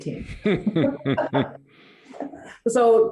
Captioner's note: both laughing